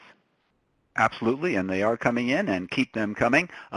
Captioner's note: voiceover